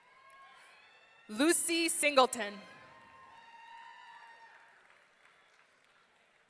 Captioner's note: audience cheering